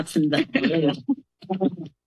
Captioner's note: laughter